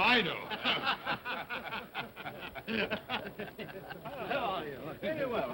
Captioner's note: men chuckle